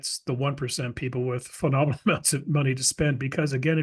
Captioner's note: laugh